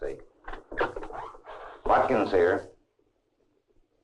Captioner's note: receiver clacking